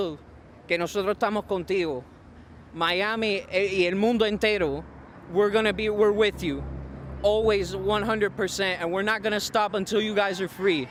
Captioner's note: speaking spanish